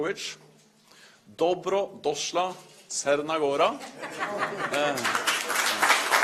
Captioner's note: speaks in Montenegrin; applause